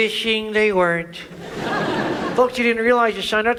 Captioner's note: audience laughs